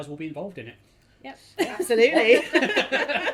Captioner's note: laughs; everyone laughing